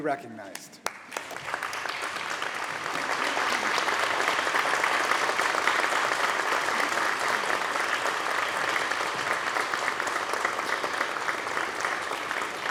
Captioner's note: applause